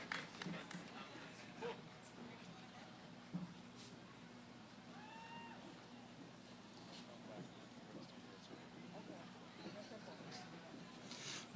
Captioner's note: cheering; background conversations